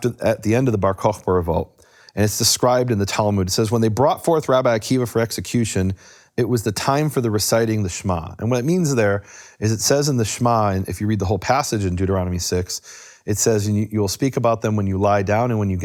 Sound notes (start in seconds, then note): none